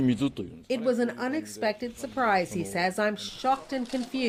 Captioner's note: speaking foreign language